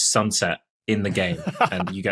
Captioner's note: laughs